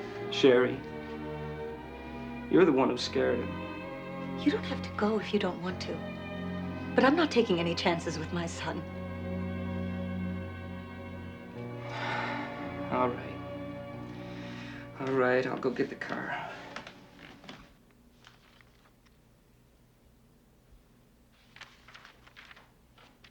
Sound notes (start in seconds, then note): 9.8 adagio instrumental music; 11.6 exhales